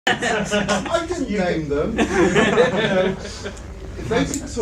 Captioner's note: male voice off-screen; all laugh